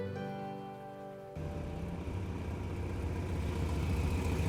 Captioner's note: engine rumbling